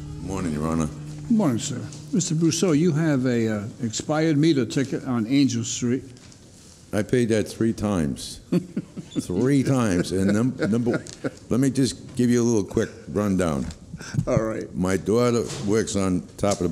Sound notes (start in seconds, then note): 8.5 laughing